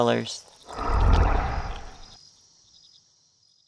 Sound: Azazel grumbles

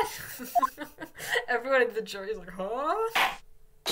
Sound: laugh

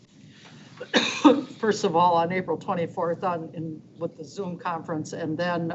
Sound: coughs

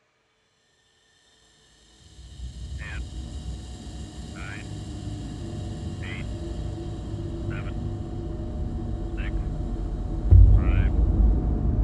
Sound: gas hissing

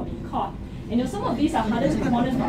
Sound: laughter

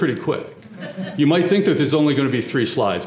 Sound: laugh

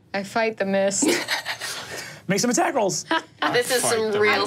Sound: laughing

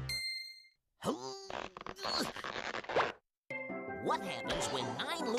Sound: grunting

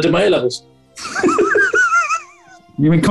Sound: giggling

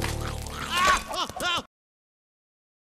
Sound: Vector yelps in pain

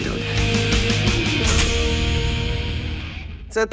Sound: music fades; gun cocks

